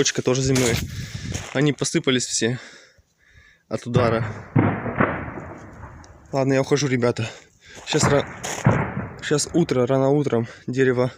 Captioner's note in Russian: Стрельба